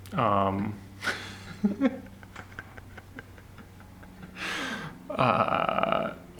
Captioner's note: laughs